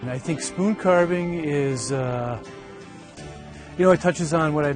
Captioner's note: voiceover